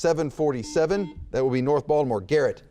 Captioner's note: buzzer beeps